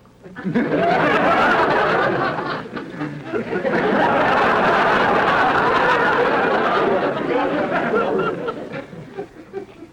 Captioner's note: audience laughter